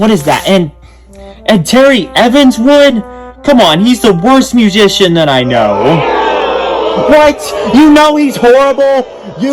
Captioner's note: crowd boos